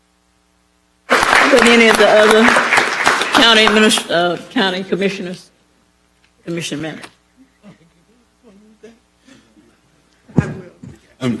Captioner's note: applause